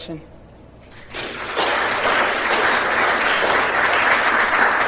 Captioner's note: applause